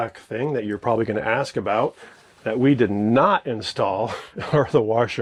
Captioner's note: chuckles